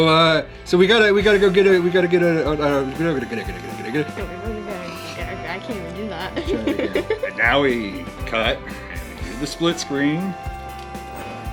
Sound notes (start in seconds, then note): 0.0 yells; 4.0 blabbers